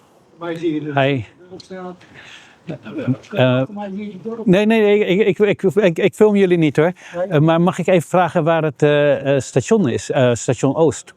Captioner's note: speaking Dutch asking for the way